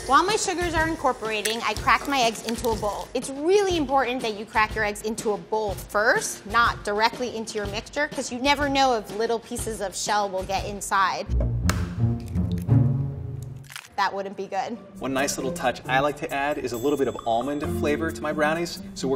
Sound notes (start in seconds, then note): 11.6 egg cracks; 12.8 dramatic music